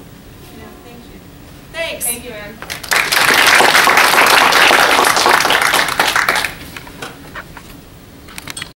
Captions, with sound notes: Yeah, thank you. Thanks! >> Thank you, Anne [applause].